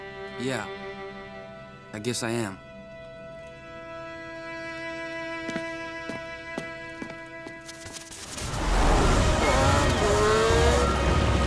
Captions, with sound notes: Yeah, I guess I am. [siren blaring]